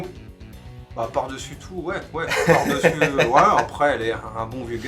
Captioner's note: does a laugh